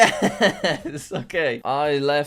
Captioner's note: chuckles